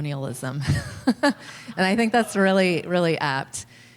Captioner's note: laughter